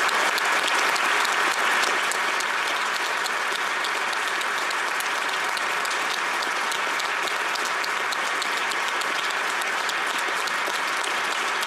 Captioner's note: applause